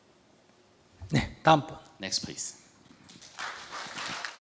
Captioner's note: audience Applaud